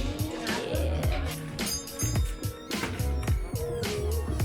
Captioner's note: doorbell dings